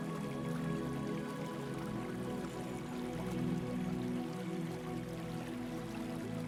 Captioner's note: water trickling